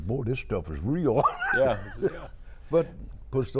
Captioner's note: laughing